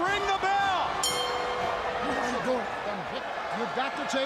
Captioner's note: bell ring